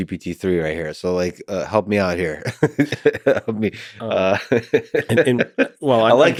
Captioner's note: laughing